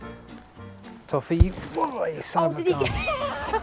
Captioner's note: whack